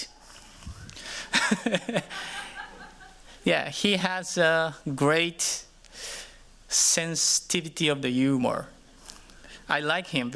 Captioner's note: chuckles